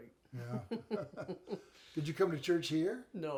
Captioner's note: chuckle